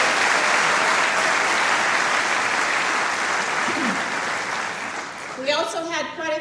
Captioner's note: applause